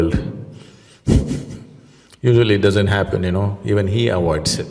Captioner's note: laughs